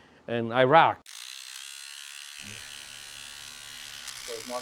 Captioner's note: sound of barber clippers